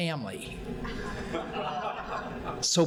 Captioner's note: audience laughing